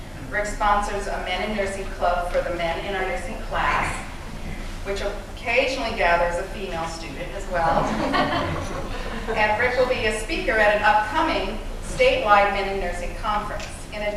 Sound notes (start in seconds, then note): 7.6 laughter